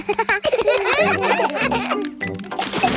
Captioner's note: children laugh